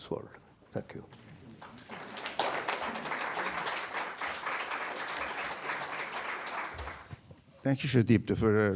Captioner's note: applause